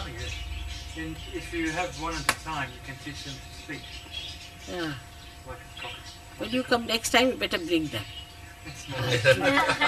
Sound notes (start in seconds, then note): 4.8 laughter